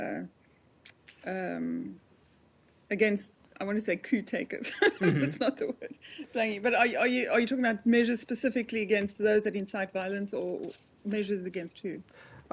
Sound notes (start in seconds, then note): 4.6 laughter